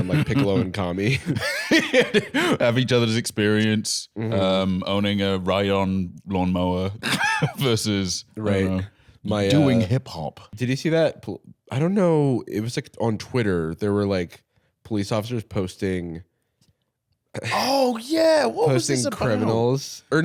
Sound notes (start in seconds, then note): 1.2 laughs